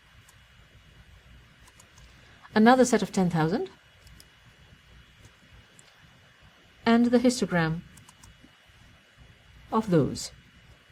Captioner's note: pause